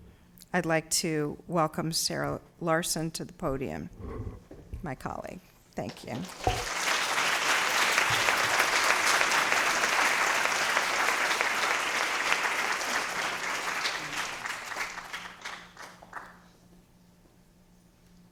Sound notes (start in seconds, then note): 6.4 applause